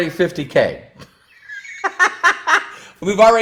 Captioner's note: laughs